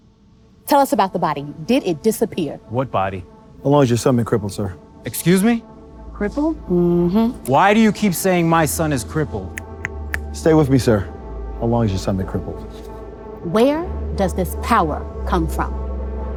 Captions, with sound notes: Tell us about the body. Did it disappear? What body? How long has your son been crippled, sir? Excuse me? Crippled? Mm-hmm. Why do you keep saying my son is crippled? (man snapping) Stay with me, sir. How long has your son been crippled? Where does this power come from?